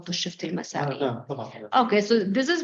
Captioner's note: speaking arabic